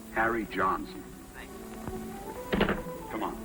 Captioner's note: on phone